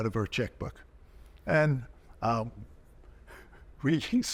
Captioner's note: chuckling